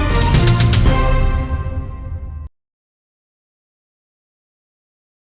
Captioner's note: upbeat music fades; logo whooshes